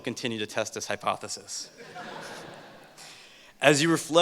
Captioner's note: laughter